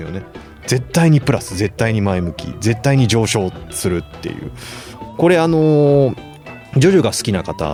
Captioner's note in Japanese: 鼻息